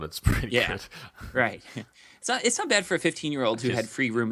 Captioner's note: chuckles